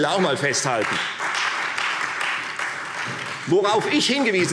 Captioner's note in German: Beifall Freie Demokraten und vereinzelt SPD